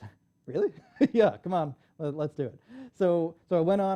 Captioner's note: laughs